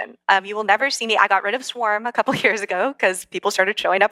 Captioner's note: laugh